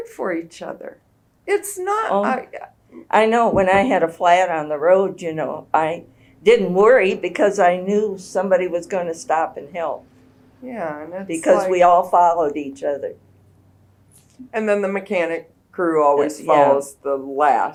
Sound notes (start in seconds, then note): none